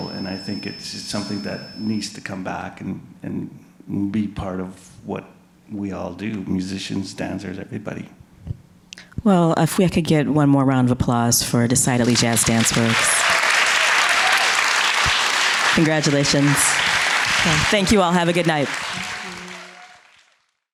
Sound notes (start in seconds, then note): 12.0 audience cheering; 13.5 audience clapping